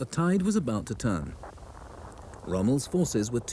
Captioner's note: radio buzzes